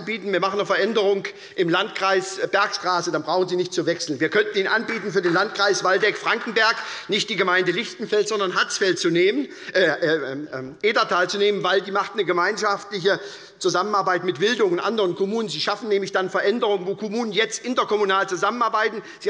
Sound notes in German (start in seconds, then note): 5.0 Beifall des Abg